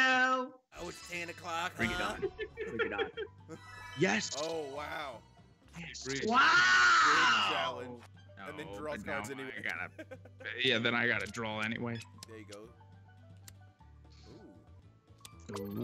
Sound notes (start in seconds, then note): 1.8 laugh; 8.9 laugh